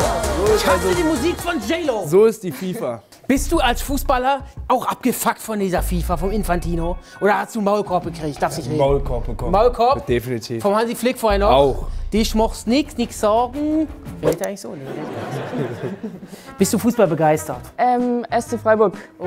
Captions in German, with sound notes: Ich hasse die Musik von J.Lo. - So ist die FIFA. Bist du als Fußballer auch abgefuck von dieser FIFA von Infantino? Oder hast du einen Maulkorb gekriegt? - Hab 'nen Maulkorb bekommen. Maulkorb? - Definitiv. Vom Hansi Flick? - Auch. Desch mochst nit, nix sog'n. Redet der eigentlich so? Nee, ne? (Lachen) Bist du fußballbegeistert? - SC Freiburg.